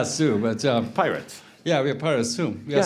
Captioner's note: laughs